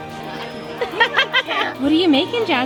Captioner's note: laughs